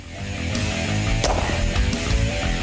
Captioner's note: gunshots; loud rock music